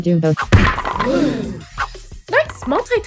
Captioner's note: all except Pillow gasp